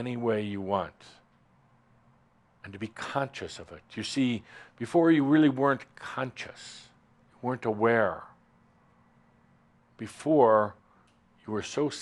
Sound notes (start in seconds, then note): none